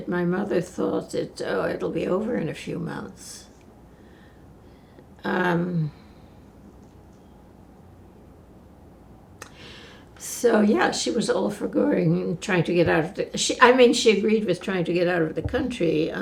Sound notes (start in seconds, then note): 3.4 pauses 6 seconds